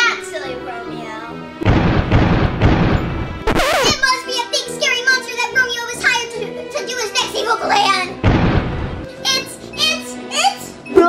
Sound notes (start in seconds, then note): 1.6 footsteps booming; 8.2 footsteps booming